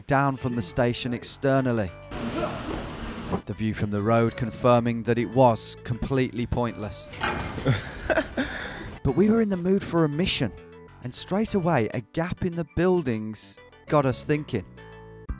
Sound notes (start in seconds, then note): 2.2 groaning; 7.4 laughing